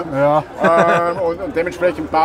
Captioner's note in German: lacht